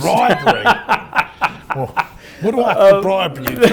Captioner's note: laughs